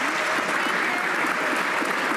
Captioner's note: some Applause